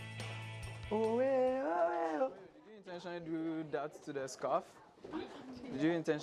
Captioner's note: speaks in foreign language